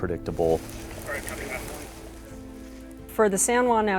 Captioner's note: firefighter on radio: "Copy that."